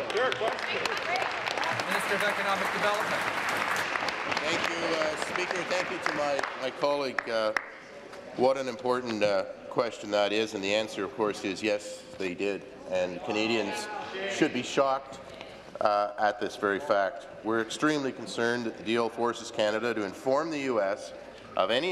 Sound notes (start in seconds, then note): 4.3 applause